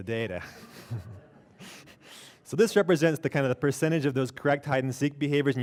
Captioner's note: laughter